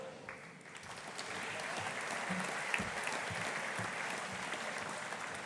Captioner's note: audience applauding